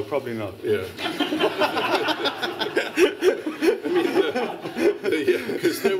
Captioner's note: laughter